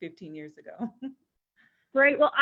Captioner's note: chuckles